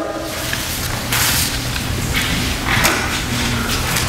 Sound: papers shuffling

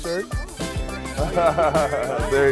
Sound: laughter

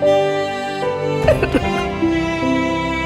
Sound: crying

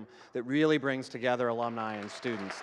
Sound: audience clapping

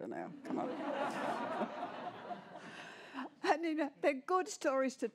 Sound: laughter

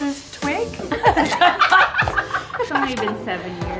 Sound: laughing

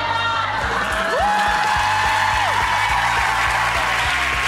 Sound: applauding

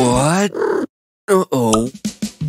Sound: meоws

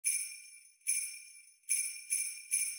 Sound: sleigh bells

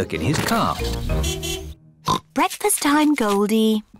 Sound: oinks

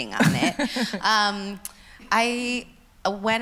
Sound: laughs

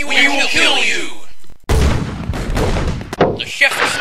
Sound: gunshots

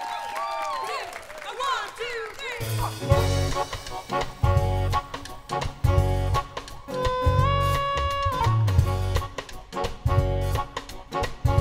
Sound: applause

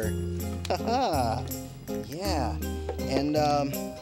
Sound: laughing

